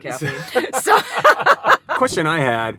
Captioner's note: laughing